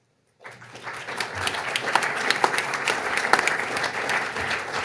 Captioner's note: audience applauding